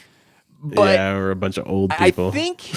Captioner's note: chuckles